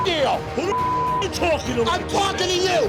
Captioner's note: beep